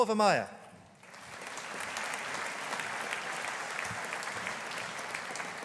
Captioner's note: audience applauding